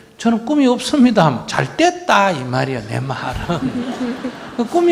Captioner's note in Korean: 청중과 질문자 웃음